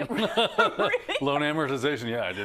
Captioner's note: laugh